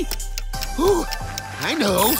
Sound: gasps

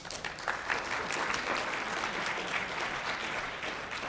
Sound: applause

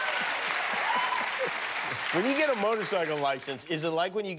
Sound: cheers and applause

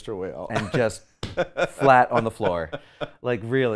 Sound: slap; laughs

